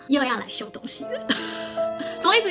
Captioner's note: laughing awkwardly